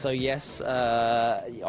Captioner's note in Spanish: habla en inglés